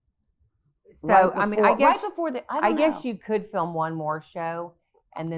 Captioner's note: both chattering